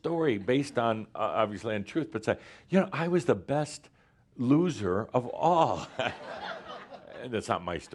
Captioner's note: laughter